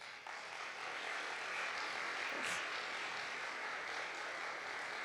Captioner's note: audience applauding